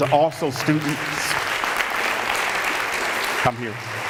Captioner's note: applause